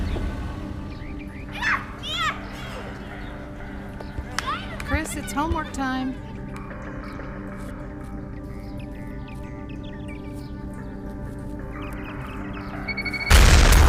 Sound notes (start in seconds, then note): 1.4 children yelling